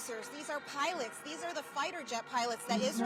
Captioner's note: crowd chanting